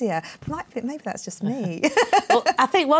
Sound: laughs

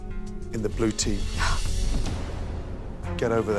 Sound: sighs

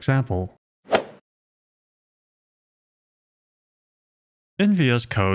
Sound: golf ball hit sound effect

